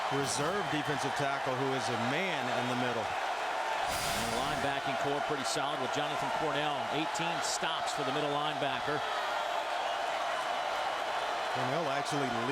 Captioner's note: crowd noise